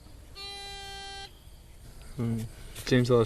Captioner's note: buzzing